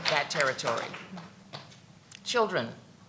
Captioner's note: audience clapping